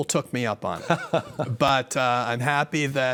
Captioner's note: laughing